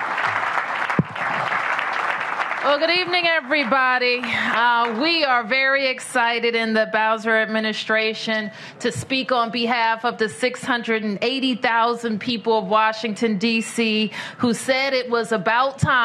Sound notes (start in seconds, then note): 5.1 applause